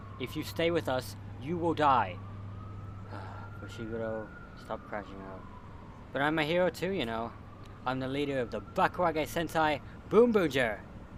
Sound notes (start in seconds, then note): 3.1 sigh